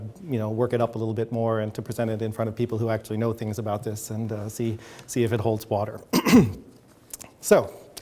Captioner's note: clears throat